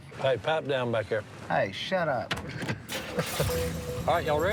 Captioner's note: Si laughs